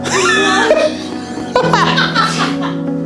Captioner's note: laughing